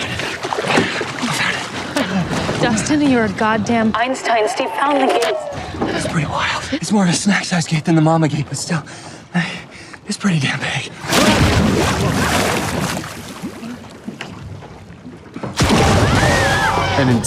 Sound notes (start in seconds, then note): 4.3 siren blares; 10.9 water splashes; 15.8 Robin screams